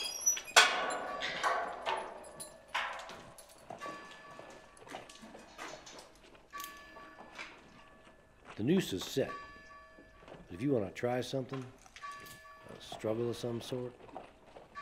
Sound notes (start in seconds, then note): 0.0 door creaking; 3.8 bell tolling